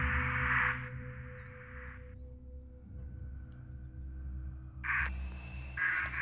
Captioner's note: Static